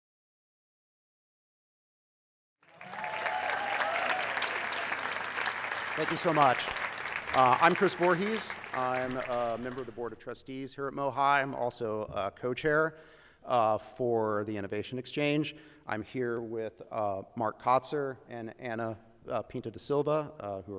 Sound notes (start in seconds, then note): 2.6 cheers and applause